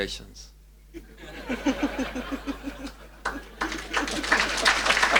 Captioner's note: audience laughs